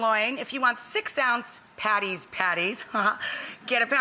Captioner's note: laughs